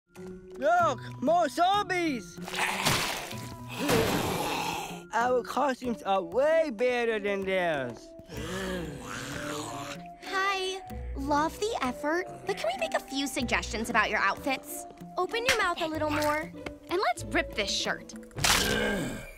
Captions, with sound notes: Look, more zombies! [snarling] Our costumes are way better than theirs. [snarling] Hi. Love the effort, but can we make a few suggestions about your outfits? Open your mouth a little more. And let's rip this shirt. [ripping, grunting]